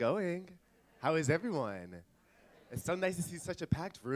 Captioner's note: audience laughs